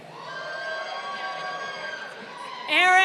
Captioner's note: crowd cheering